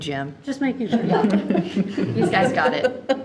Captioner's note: group laughs